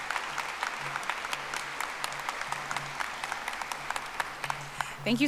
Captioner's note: audience applauding